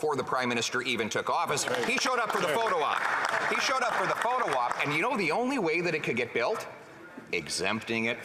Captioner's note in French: voix de l'interprète